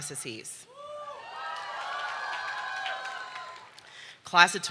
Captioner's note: audience cheering